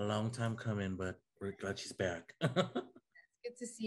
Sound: laughs

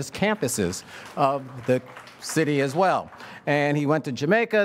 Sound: audience applauds

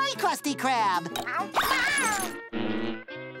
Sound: meowing

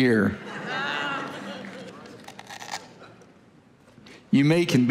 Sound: congregation laughing

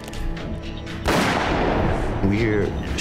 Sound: gun shot fired

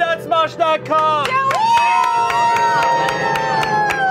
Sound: all cheering

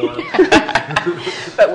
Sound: laughter

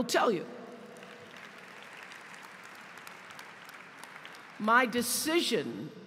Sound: applause

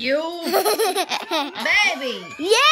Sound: laughing

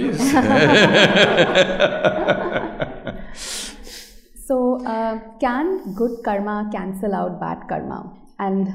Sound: laughter

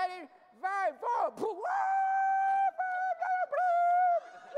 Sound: screaming

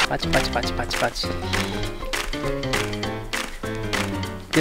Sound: clapping and cheering

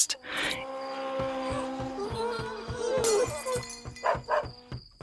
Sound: glass breaking and dog barking

